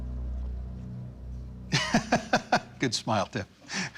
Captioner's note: laughs